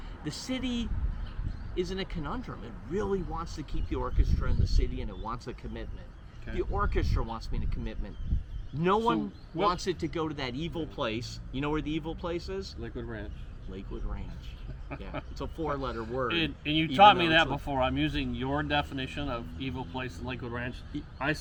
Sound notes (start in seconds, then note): 14.6 laughs